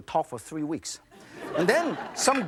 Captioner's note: audience laughs